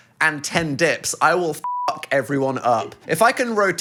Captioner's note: beep